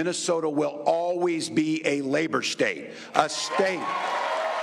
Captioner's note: applause